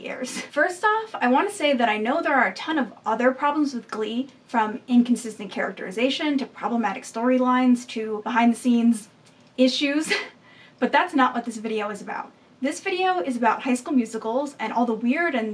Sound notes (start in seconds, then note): 10.1 laughs